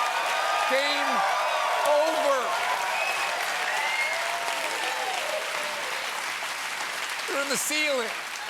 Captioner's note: cheers and applause